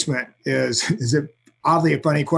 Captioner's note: chuckles